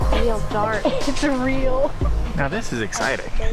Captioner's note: laughing